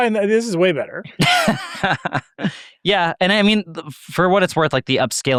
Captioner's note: laughs